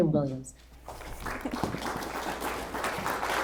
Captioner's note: applause